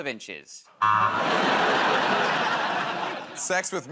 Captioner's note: laughter, buzzer